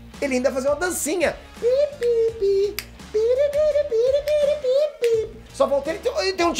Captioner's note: humming